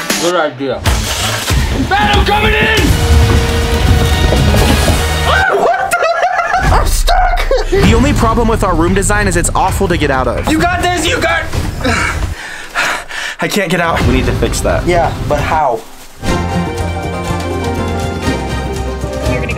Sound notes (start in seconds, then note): 5.2 laughing; 15.9 instrumental music